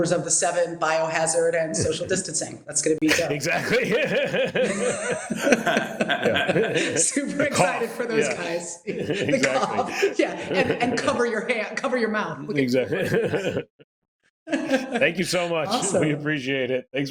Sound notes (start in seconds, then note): 4.0 laughs; 12.6 laughs